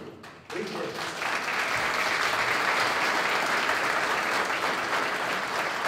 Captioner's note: applause